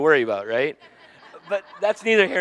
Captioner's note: audience laughing